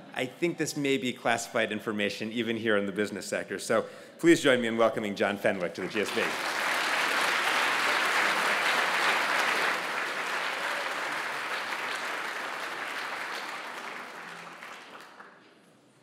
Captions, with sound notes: I think this may be classified information even here in the business sector. So, please join me in welcoming John Fenwick to the GSP. >> [APPLAUSE]